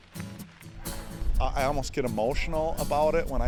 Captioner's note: soft instrumental music; air whooshing